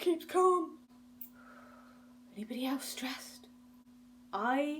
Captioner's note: exhales